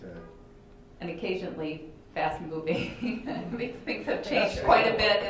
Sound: chuckles

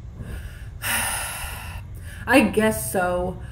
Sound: defeated signs

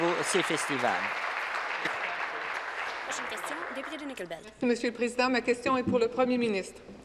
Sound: applause

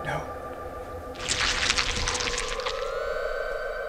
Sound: Changeling sound effect

